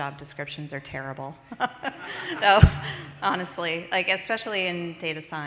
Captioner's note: laughs